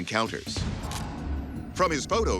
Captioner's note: camera shutter clicks